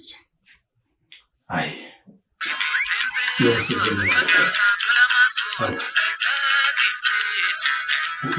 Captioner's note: phone Ringing